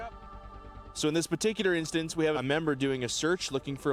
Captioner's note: voiceover